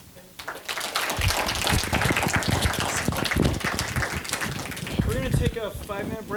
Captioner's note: applause